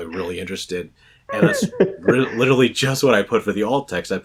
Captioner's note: laughs